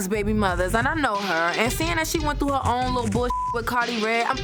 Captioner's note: beep